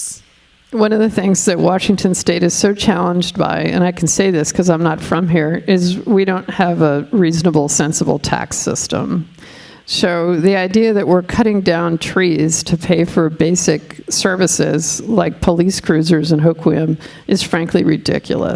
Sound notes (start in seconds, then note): none